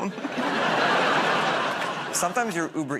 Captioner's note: laughter